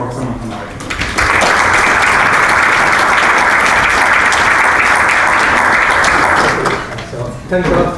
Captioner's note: applause